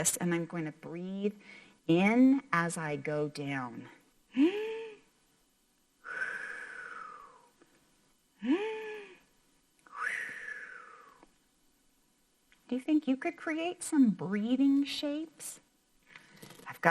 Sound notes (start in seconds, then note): 6.0 breathes in; 6.1 makes air whooshing sound; 9.9 breathes in; 9.9 makes air whooshing sound